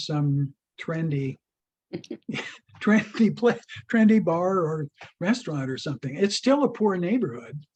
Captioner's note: both laughing